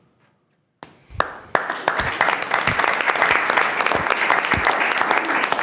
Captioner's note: attendees clapping